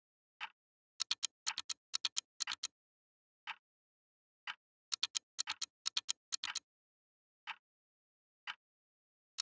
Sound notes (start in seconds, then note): 1.0 a galloping tick tok; 2.9 tick; 4.9 a galloping tick tok; 6.3 tick